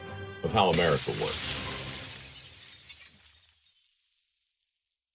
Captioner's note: glass clatters